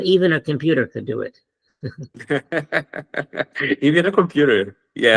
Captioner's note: laughs